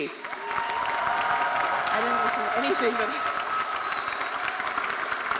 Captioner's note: audience cheering and applauding